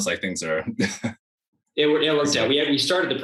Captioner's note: chuckles